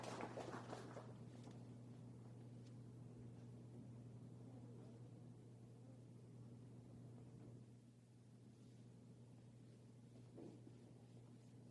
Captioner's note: applause